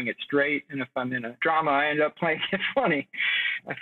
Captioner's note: laughs